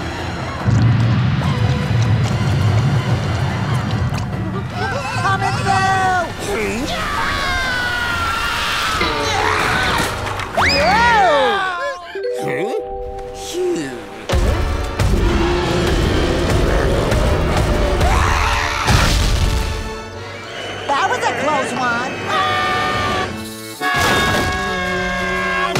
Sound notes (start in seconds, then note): 6.8 screaming; 14.4 stomping, roaring; 17.7 screaming; 22.2 screaming